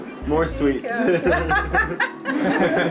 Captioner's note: laughter